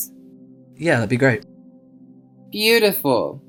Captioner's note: voiceover